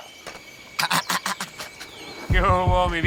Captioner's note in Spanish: Risas